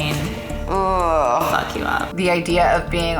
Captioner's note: groans